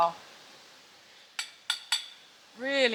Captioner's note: clunk clunk clunk